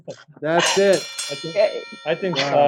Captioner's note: bell ringing